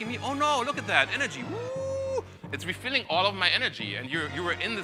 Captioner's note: cheers